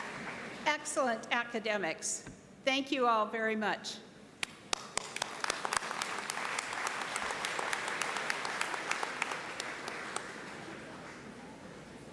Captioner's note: applause